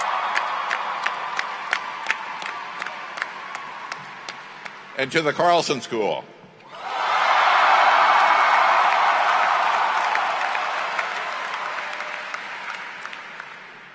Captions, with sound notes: TO CFANS. [Cheering] AND TO THE CARLSON SCHOOL. [Cheers & Applause]